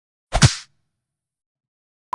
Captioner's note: ka pow!